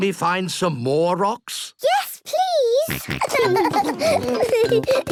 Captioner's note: giggling; snorting and giggling